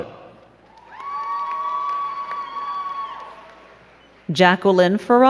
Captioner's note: crowd cheering and clapping